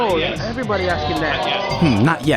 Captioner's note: audible disappointment